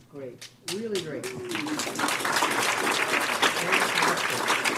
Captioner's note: applause